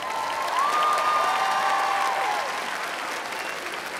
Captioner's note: crowd applauds